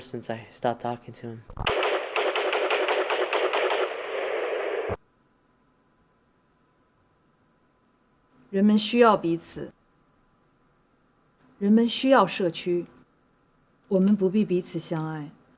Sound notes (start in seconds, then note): 1.6 gunfire; 8.6 non-english speech